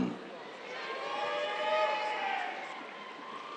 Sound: cheers

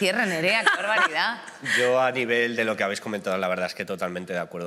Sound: laughs

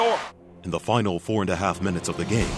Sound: voiceover

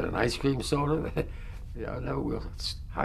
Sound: laughs

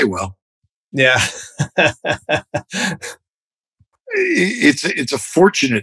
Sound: laughter

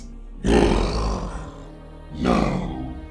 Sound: Mohuru growls

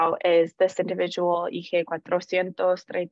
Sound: non-english

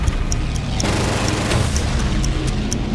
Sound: gun firing

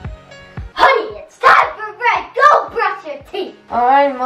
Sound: yells

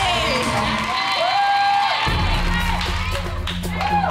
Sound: audience cheering

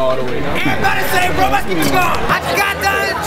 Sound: chanting

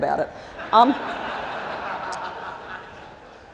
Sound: laughter

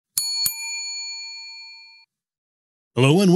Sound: ding

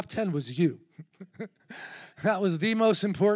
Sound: chuckles

